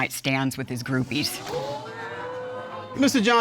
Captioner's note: audience exclaims